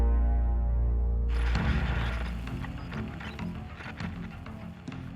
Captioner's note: static crackling